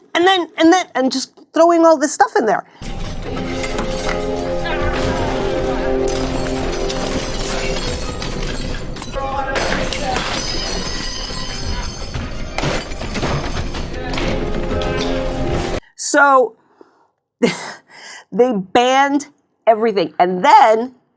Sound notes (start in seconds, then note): 5.7 things breaking